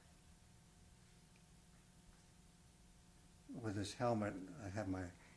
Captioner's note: pauses for 3 seconds